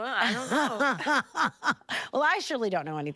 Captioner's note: laughing